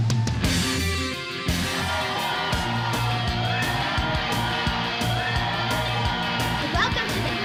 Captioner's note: crowd cheering